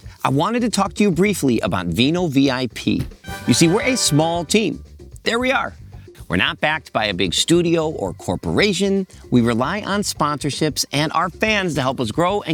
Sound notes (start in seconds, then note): 3.2 upbeat sound effect